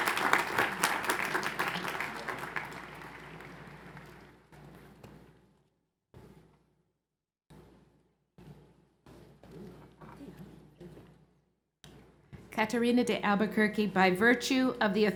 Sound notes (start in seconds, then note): 2.7 applause